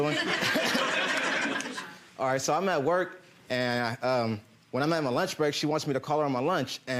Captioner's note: audience laughing